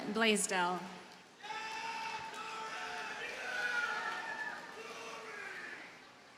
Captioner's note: audience cheers and applauds